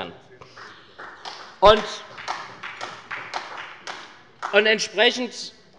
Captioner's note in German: Beifall bei der SPD